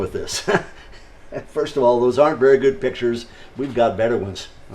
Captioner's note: laughs